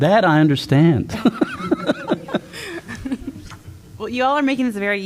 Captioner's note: laughter